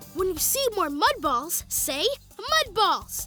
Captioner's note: none